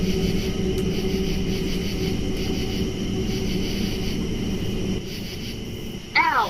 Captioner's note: buzzing sound